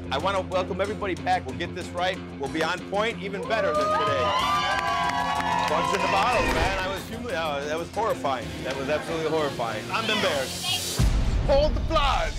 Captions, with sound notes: I wanna welcome everybody back, we'll get this right. We'll be on point even better than today. (patrons applauds) Bugs in the bottles man that was horrifying. That was absolutely horrifying, I'm embarrassed. - Pull the plug.